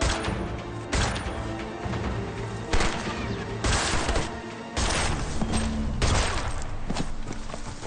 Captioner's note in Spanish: Disparos